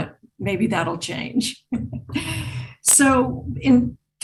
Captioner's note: laughs